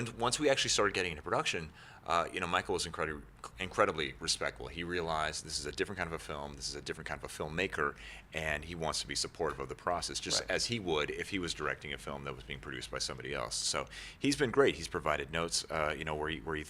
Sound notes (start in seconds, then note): none